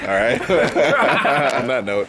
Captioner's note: laughs